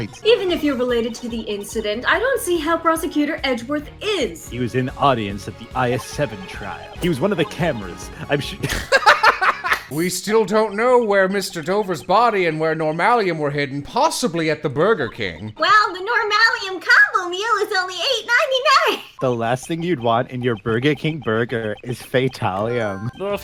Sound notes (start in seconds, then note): 8.2 laughter